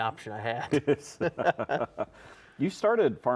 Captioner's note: both laugh